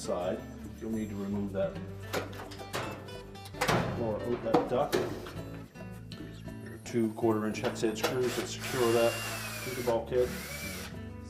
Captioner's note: drilling sound